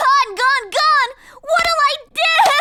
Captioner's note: sobs